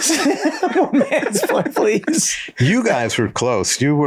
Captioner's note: laughing